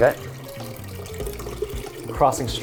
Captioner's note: drink pouring into container